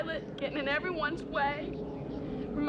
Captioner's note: none